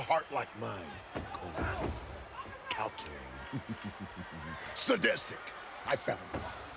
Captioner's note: chuckling